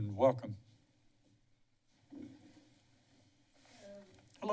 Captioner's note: shuffling noises